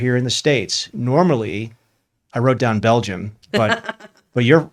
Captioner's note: laughs